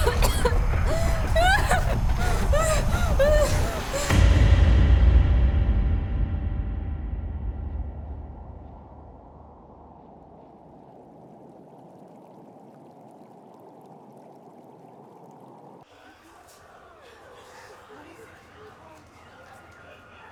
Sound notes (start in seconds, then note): 0.0 Abby coughs; 1.9 Abby whimpers; 4.1 dramatic musical score; 7.4 wind blows